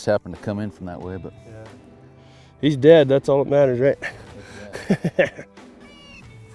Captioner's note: laughs